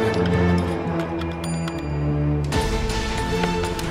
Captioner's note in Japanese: エレベーターの到着音